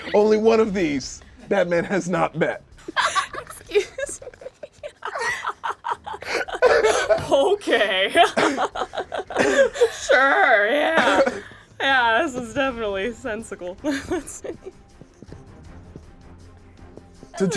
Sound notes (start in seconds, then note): 5.7 laughs; 14.3 slow suspenseful music